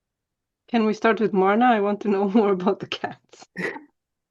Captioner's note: laughter